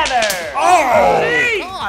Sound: slaps

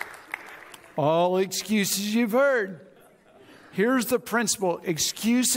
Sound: audience applauds

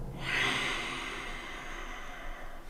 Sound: murk hisses

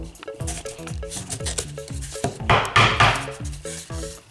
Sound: scratching and banging

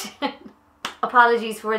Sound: laughs

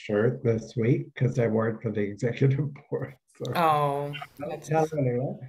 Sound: laughs

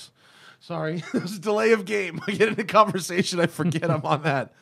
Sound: laughter

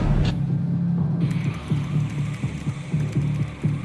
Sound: typing; UFO ambience

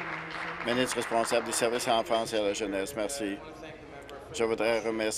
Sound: applause

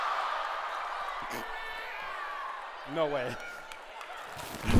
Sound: gagging; cheering

